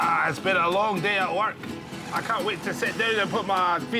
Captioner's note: Scottish accent